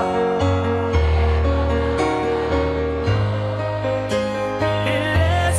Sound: crowd

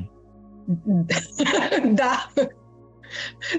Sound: laughter

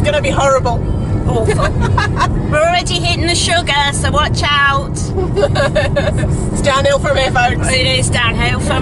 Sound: laughs

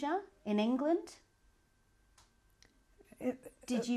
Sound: pauses for 3 seconds

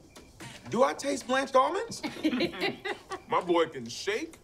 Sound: laughs

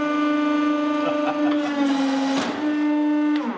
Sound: laughter

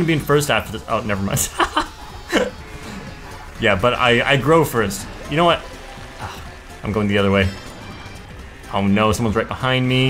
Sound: laughs

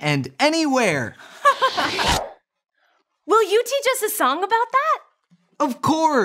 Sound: giggles

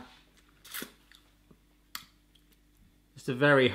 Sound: sucking noises

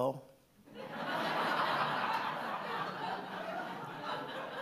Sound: audience laughing

